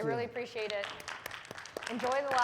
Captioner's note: audience applauding